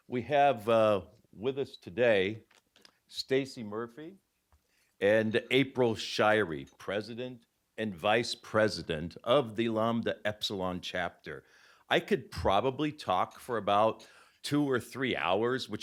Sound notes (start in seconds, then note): none